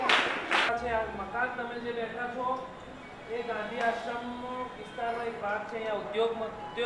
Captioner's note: foreign